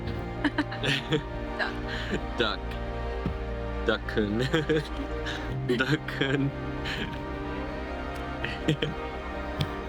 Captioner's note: laughs